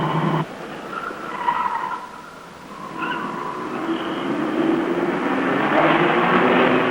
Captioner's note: engine rumbles; tires squealing